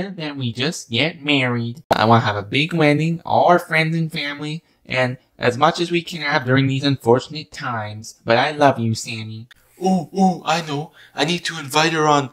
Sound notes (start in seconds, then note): 9.3 speaking